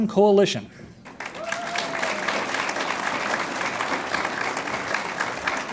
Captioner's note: audience applauds